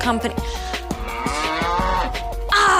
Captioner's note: cow mooing